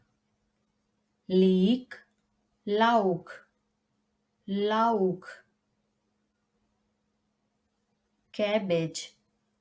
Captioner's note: in German: Lauch